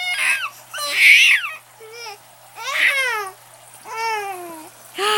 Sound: baby coos

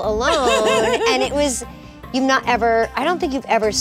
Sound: laughs

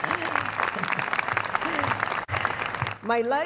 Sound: cheers and applause

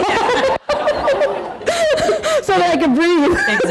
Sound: laughing

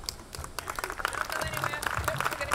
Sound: audience clapping

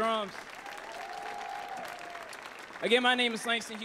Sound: audience applauds; audience cheers

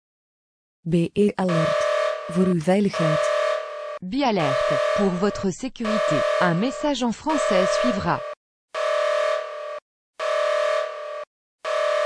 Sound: message in dutch and french, alarm

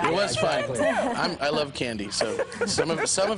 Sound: laughter

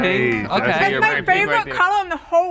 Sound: group murmuring in agreement

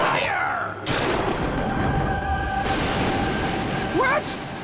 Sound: thundering

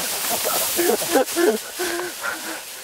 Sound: laughing

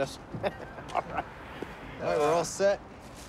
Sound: laughing

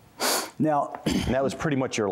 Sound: sniffs

